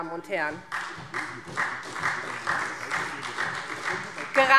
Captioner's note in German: Beifall SPD